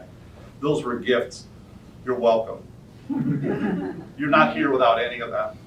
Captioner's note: soft audience chuckle